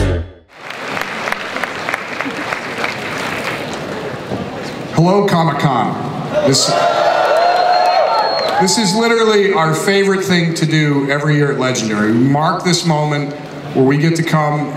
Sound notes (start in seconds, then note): 0.5 audience applause; 6.3 audience cheers